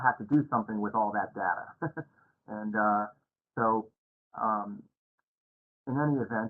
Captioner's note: laughter